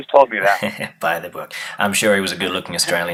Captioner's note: laughing